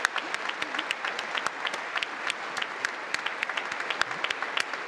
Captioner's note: congress applauding